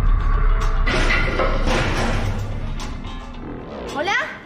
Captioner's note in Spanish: Cristal roto